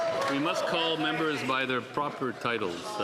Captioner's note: some Applause